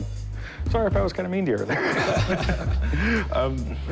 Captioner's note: laughter